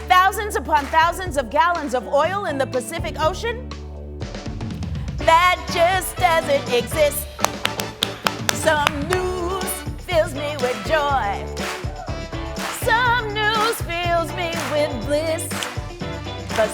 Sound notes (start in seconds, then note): 7.4 clapping